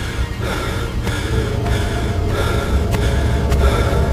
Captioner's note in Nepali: स्याँस्याँ गरेको आवाज